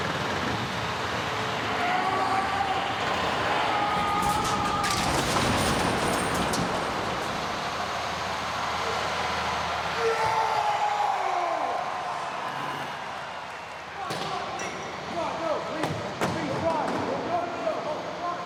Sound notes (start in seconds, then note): 3.1 Braun yelling; 5.8 truck crunching; 9.3 Braun yelling